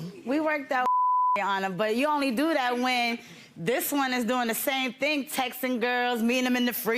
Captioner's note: beep